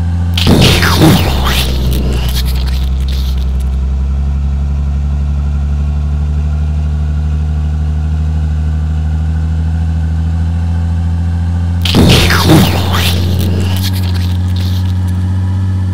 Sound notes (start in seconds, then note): 0.3 explosion; 11.8 explosion